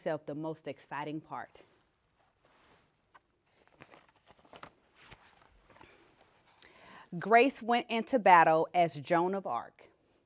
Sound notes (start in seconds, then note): 2.2 page turning